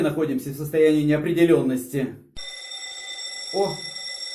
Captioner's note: bell rings